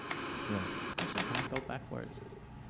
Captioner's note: clicking